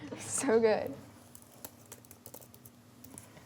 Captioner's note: typing